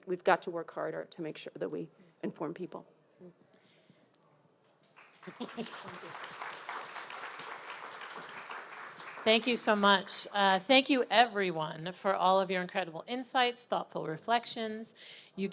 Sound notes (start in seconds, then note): 4.9 audience applauding